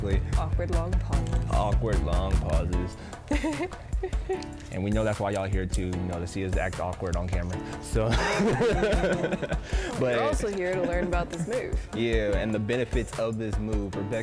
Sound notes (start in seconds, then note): 3.2 laughs; 8.0 laughs